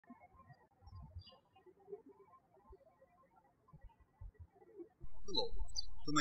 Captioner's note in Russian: птички щебечут